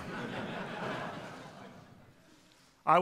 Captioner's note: laughter